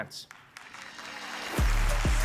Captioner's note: applause; upbeat music